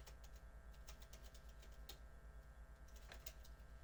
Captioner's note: fingers typing